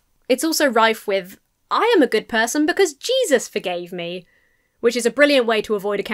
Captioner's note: none